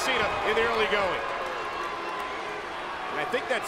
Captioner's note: applause